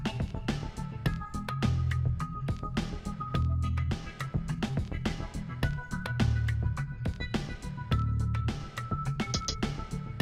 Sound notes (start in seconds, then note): none